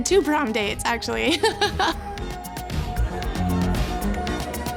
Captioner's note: laughing